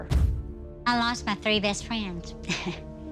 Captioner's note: laugh